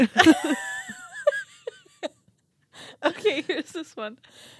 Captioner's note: laughing